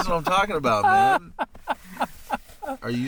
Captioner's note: laughing